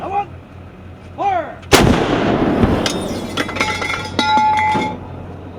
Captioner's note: sound of shell hitting ground